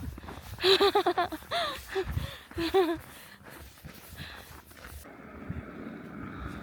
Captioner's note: laughs